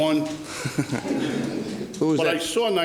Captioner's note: laughs